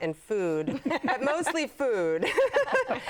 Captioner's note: laughter